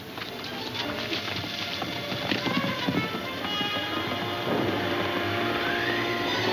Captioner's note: ominous music; wind howling